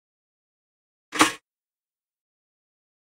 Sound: sound of kitchen toaster

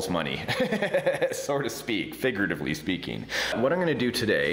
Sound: laughs

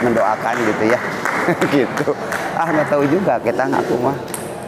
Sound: applause

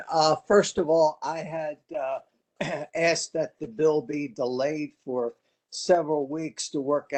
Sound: cough

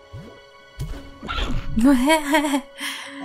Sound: laughter

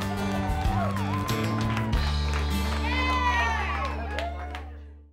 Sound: cheering and applause

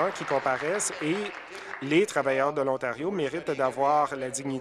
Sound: applause

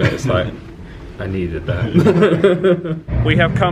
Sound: laughs

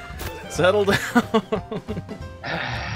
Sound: sigh

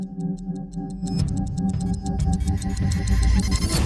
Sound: ticking sound speeding up

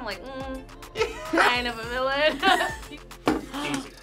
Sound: both laugh

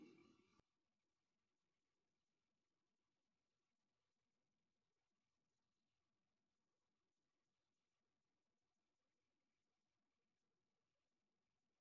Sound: silence

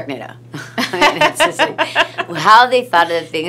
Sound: laughs

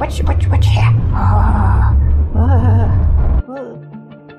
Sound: scaredy noises

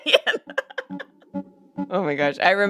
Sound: laughs

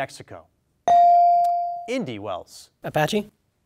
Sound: bell dings

